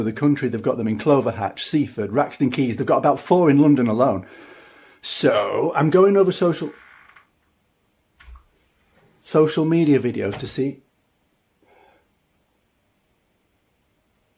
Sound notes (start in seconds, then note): 6.4 door creaks; 10.2 door bangs open